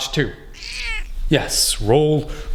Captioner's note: crow squawks